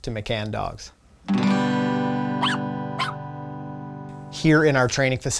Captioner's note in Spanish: perro ladrando